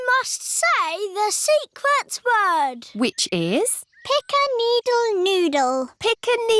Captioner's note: none